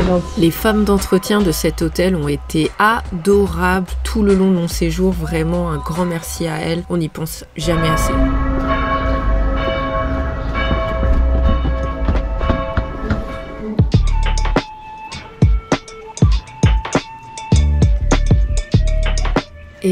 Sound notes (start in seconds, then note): 7.6 sound of church bells